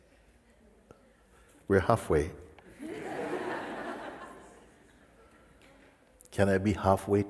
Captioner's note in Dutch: gelach